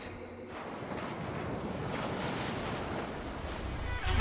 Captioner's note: waves crashing